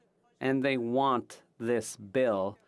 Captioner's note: speaking French